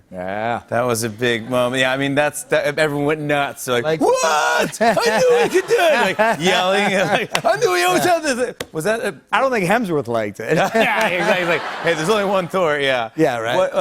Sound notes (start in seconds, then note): 10.6 laughter